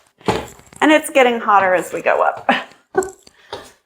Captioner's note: laugh